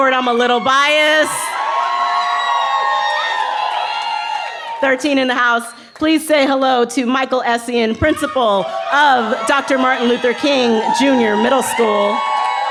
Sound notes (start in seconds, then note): 2.6 cheering